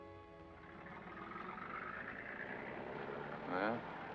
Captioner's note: vehicle rumbles down street